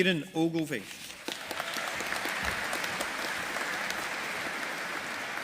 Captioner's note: audience applauding